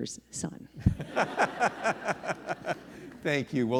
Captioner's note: person laughing